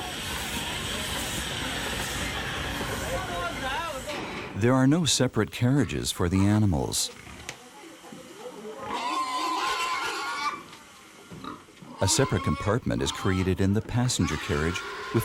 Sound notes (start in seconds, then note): 0.0 train engine revving; 8.7 pigs grunting